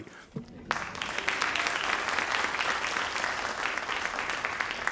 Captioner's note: crowd applauding